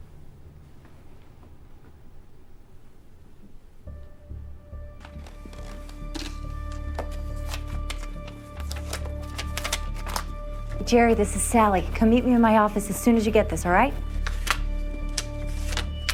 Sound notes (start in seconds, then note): 4.1 tense music plays; 7.9 paper rustles